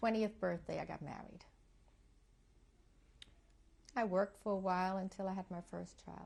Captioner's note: pauses for 3 seconds